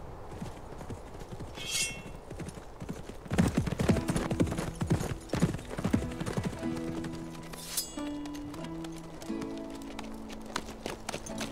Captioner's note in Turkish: Nal Sesleri ve Kılıç Sesi